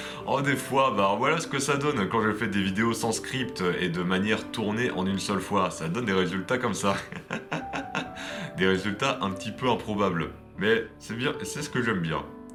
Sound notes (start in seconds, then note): 7.0 laughs